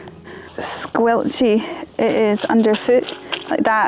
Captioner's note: Squelchy